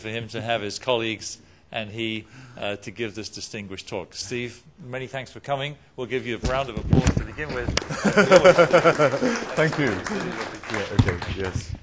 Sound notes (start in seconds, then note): 7.7 applause; 7.8 laughs